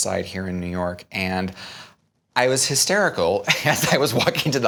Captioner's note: laughs